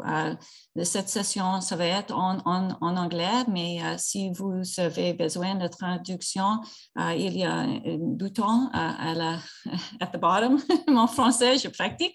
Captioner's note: French